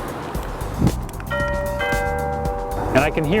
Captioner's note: doorbell